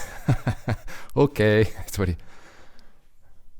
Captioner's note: laughing